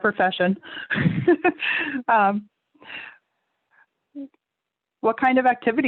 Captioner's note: laughs